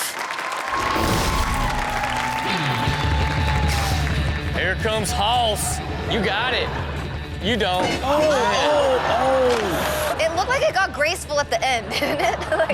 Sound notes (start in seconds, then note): 0.0 audience applauding; 8.2 audience exclaims